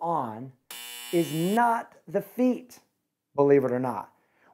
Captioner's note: buzzer buzzes